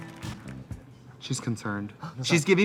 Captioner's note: Katya gasps